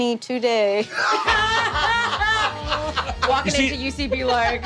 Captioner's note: players laughing